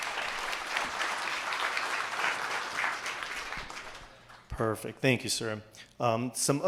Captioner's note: applause